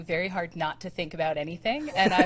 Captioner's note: laughs